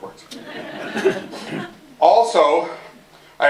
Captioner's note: laughter